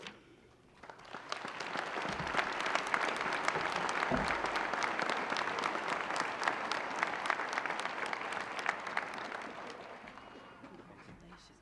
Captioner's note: applause